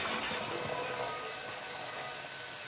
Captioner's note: alarm continues ringing